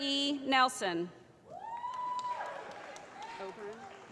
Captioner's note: cheering